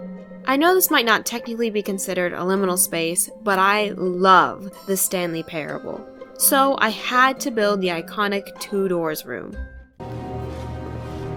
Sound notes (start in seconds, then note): none